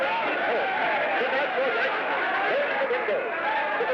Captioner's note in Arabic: صراخ وضوضاء من الجمهور